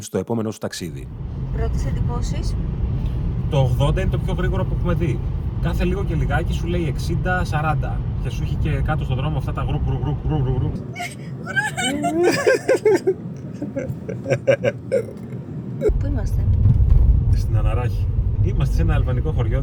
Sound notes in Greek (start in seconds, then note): 13.9 γέλια